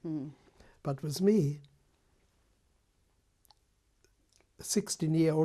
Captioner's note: pauses for 3 seconds